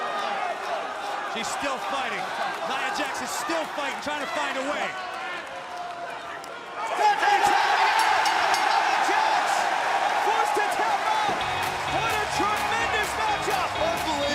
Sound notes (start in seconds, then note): 4.7 crowd chatter; 7.9 bell ringing; 8.5 crowd cheering